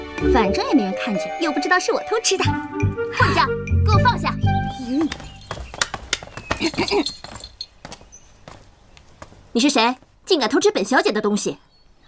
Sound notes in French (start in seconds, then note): 6.6 Tousse